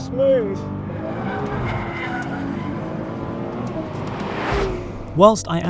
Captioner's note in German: Reifen quietschen; Motor brüllt